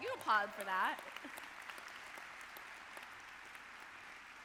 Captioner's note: audience clapping